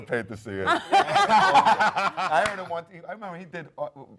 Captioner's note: panel laughs